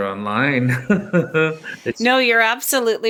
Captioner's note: laughs